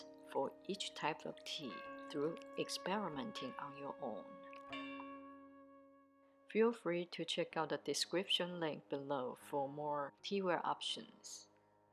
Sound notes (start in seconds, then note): 4.7 bell dinging